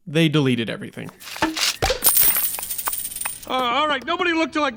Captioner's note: pop! Coins clinking